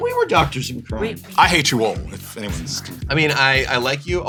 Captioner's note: whispering